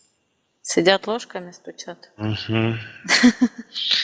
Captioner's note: laughing